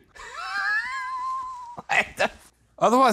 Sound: laughs

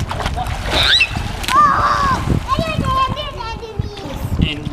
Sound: screaming

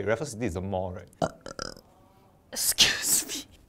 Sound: buRRRPP

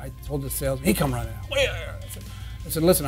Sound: grumbles

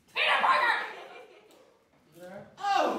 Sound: Several giggles offstage. Peter has been chit-chatting with audience members

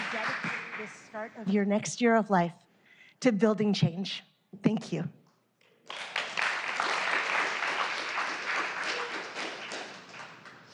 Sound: applause

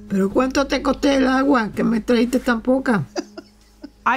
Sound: Spanish

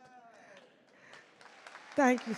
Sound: audience cheer and clap

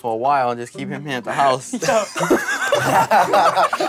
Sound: all laughing; laughs

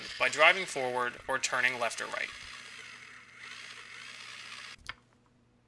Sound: robot noises

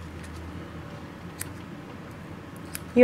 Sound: scissors-clipping sounds

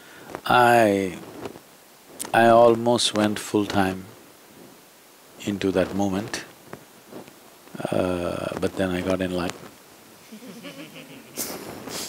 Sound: laughter

